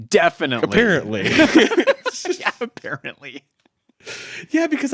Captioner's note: laughing